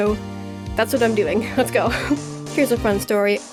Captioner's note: giggles